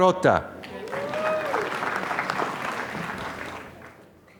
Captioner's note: applause